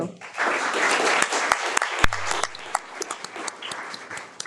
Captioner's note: people applauding